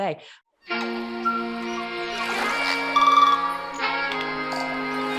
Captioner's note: wildlife sounds